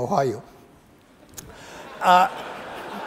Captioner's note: laughter